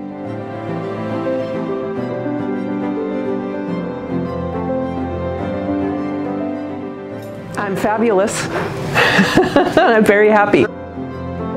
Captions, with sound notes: (gentle inspirational music swells) I'm fabulous. (joyfully laughs) I'm very happy.